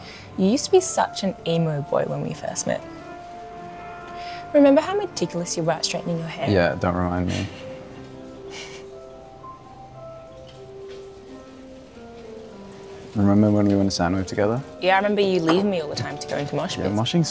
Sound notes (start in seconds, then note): 8.4 chuckles